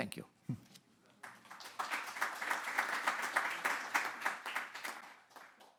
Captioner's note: audience clapping